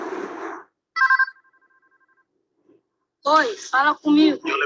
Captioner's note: phone rings; speaks in foreign language